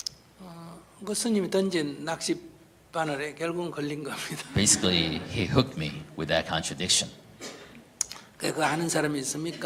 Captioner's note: /Audience Laughter